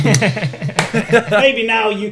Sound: laughs

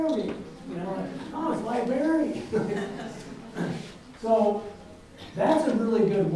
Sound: audience chuckles

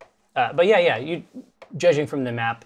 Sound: none

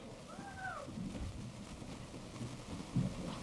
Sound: cheering

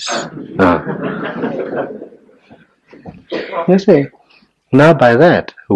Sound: general laughter

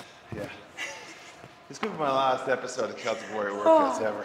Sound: laugh

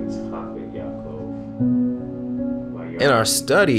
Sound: reading Torah in Hebrew

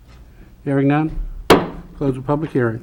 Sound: gavel banging

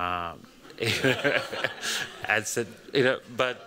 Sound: laughter

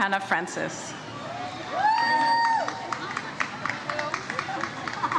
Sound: audience cheers

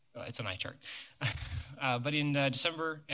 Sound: laughs

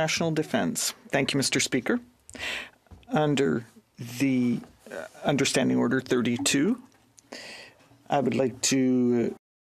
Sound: speaking French

